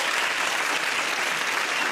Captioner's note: applause